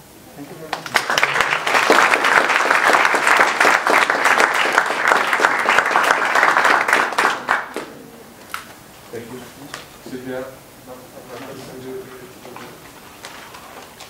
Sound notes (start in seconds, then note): 0.6 applause